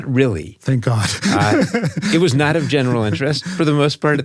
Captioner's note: laugh